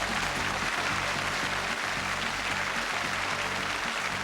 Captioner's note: applause